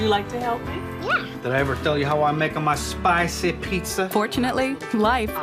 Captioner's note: with Italian accent